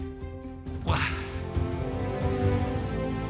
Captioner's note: laughs